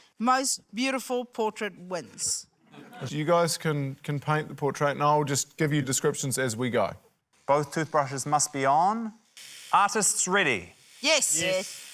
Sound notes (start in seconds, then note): 8.9 toothbrushes whirr